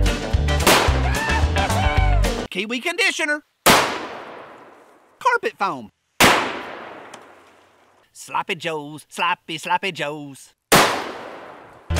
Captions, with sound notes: (gun fires) Kiwi conditioner (gun fires) Carpet foam. (gun fires) Sloppy Jo's, sloppy sloppy Jo's. (gun fires)